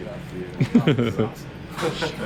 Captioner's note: laughing